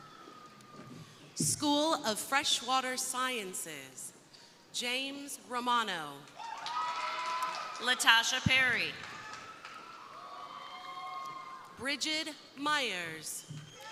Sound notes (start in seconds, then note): 6.3 crowd cheering; 6.4 crowd applauding; 8.7 crowd cheering